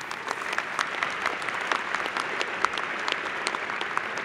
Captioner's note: applause